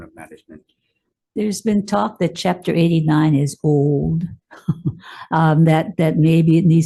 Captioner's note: chuckles